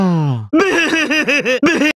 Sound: laugh

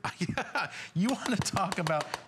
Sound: laughter

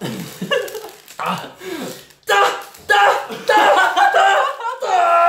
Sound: sound effects

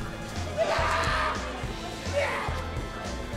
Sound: screaming

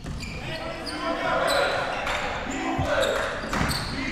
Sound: crowd cheering

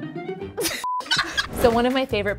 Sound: laughing

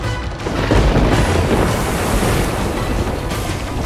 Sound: thundering

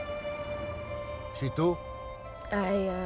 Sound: violin music; speaking romanian

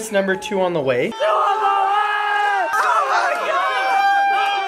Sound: yelling excitedly

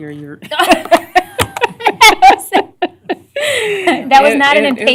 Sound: laughter

